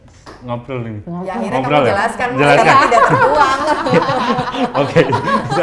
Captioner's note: laugh together